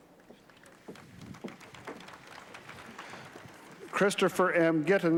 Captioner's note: applause